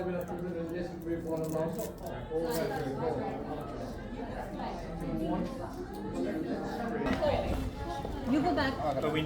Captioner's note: crowd chattering